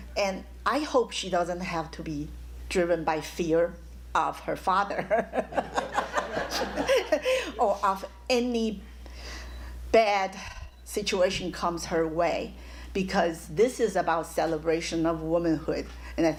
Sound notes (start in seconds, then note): 5.1 laughs